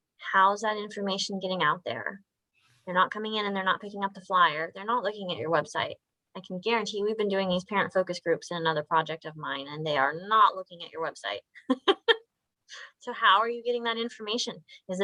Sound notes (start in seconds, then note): 11.7 laughs